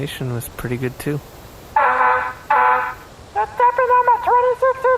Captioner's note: RV beeping